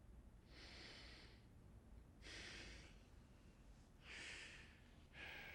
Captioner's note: Richard breathing heavily